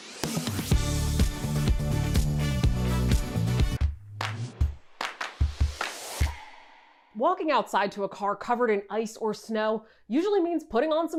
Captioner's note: applause